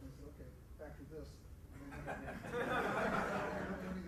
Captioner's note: laughter